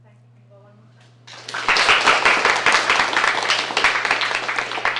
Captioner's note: applause